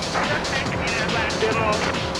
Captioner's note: tires screeching; speaking in foreign language